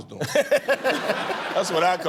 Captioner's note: laughter